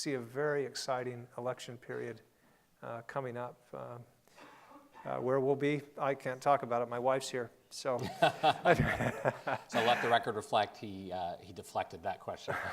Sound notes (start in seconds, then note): 8.0 laughing